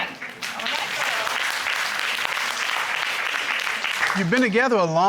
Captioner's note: audience applauding